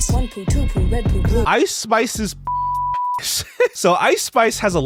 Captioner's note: beep